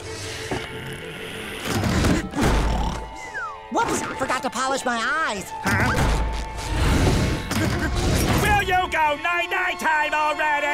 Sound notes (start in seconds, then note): 2.1 snoring